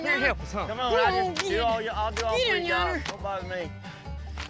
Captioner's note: grumbling